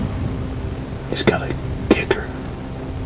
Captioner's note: whispering